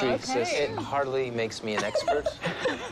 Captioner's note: Andie and Cliff laugh